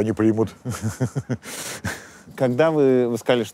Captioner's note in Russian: усмехается